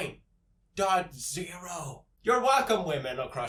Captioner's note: whispers